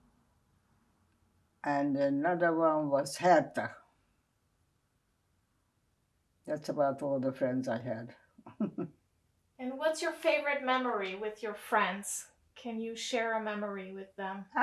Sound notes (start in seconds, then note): 8.5 laughing